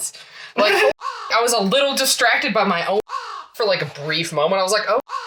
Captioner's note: caw; caw; caw